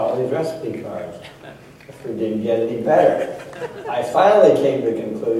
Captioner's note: laughter